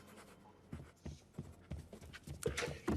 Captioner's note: highlighter scratching; quick footsteps